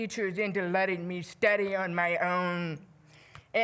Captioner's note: none